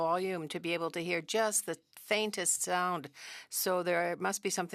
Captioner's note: speaking French